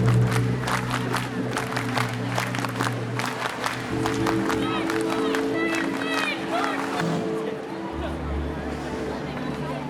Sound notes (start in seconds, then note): 0.2 somber music; 4.8 crowd chanting